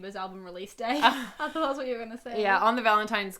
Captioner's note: laughs